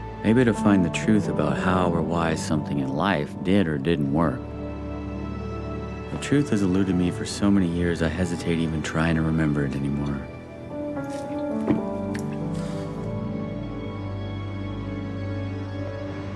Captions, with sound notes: Maybe to find the truth about how or why something in life did or didn't work. The truth has alluded me for so many years, I hesitate even trying to remember it anymore. (Dayne swallows and sighs) (soft dramatic music continues)